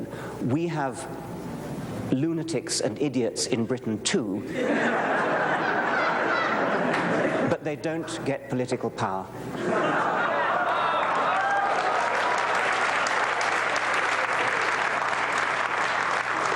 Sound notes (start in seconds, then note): 4.5 laughter; 9.5 laughter; 10.8 applause